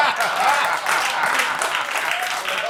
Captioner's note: laughter; applause